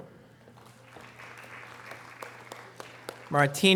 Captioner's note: audience applause